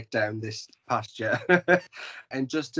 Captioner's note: laughs